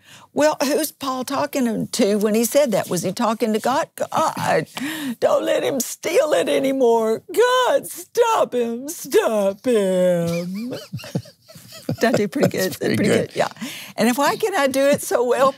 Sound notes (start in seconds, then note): 11.8 laughs